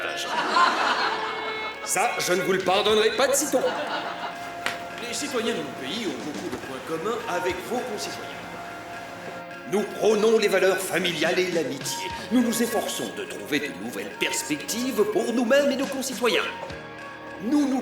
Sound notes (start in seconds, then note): 0.0 all laughing; 3.2 laughter